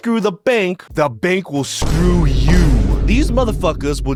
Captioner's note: gavel pounding